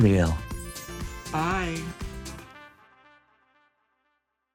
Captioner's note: chimes ringing